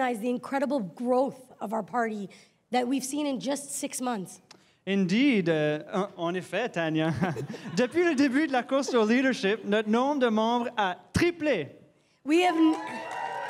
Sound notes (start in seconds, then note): 9.1 rire